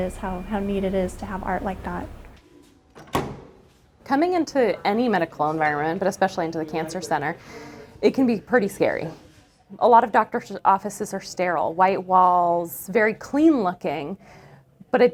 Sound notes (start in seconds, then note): 2.9 door opens